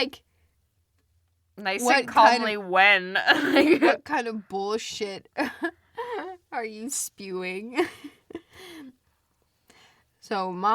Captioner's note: laughs